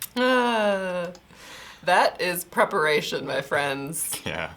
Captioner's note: laughs; sighs